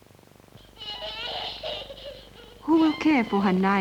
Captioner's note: young children crying